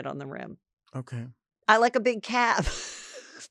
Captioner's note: laughs